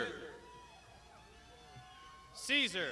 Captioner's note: crowd shouting